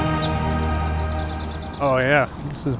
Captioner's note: birds chirping